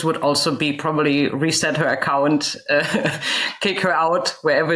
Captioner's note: chuckles